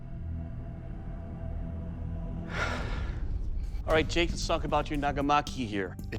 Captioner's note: suspenseful music; exhales